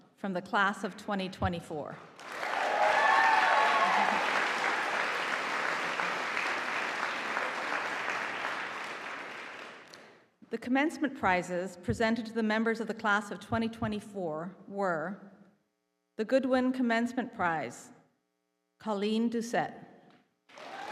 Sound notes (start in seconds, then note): 2.2 audience applauding; 20.5 audience applauding